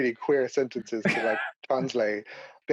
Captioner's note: laughing